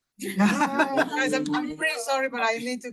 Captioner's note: attendees laughing